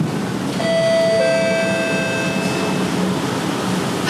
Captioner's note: announcement chime